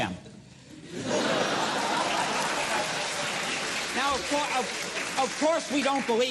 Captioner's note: audience laughter and applause